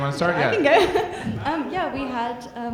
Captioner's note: chuckles